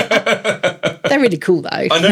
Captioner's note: laughing